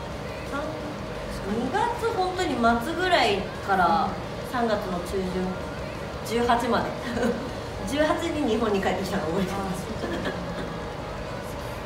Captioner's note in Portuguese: risos